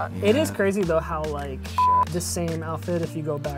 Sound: beep

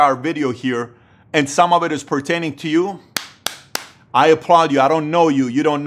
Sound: claps hands

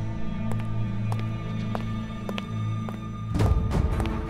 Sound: footsteps

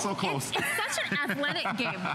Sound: laughter

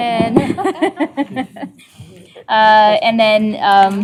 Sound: laughter

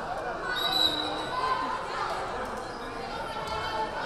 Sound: whistle blaring

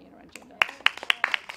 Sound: clapping

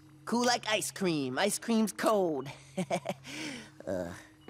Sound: chuckles

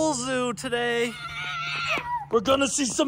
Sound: kids screaming

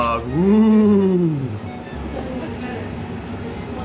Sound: scary sound

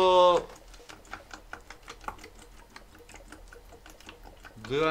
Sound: water still gurgling

